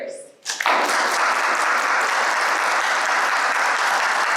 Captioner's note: audience applauds